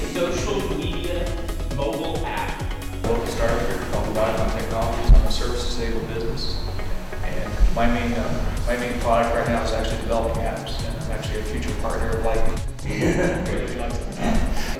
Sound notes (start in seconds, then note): 12.8 laughs